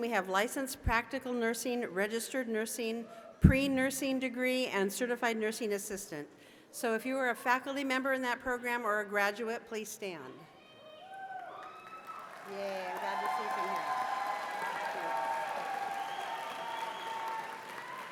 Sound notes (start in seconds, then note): 10.8 cheers and applause